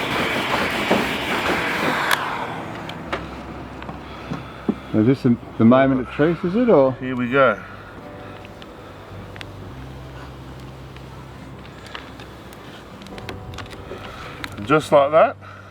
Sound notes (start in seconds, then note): 2.2 blowing noise stops